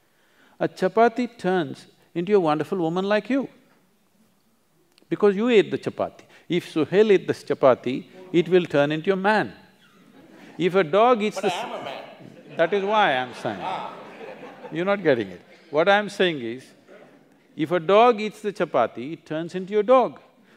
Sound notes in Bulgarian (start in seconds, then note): 12.1 смях